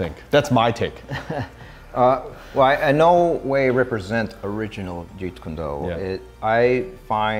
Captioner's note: laugh